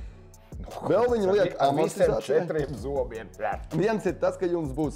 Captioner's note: nom